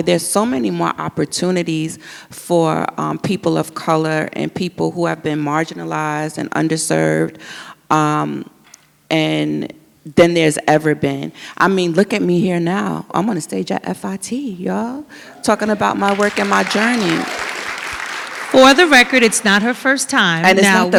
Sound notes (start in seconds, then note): 15.3 audience applauds